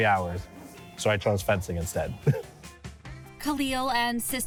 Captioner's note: laughs